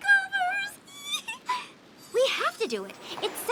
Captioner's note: giggles